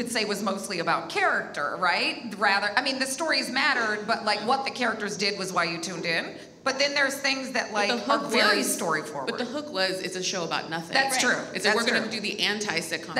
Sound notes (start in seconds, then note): none